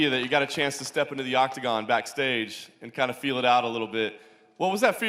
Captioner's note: applause